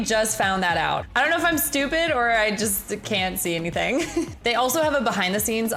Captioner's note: chuckles